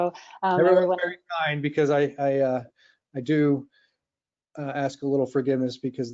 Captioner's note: faintly speaking